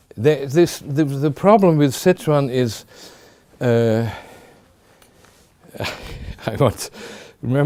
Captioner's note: chuckling